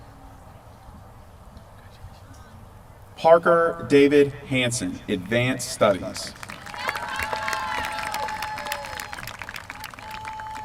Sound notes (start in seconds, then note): 6.1 applause